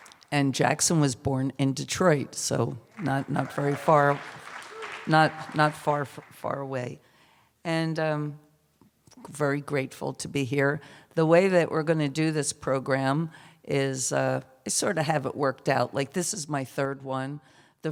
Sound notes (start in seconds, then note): 2.9 cheers